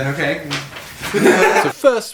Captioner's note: laughs